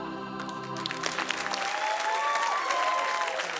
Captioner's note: applause, cheering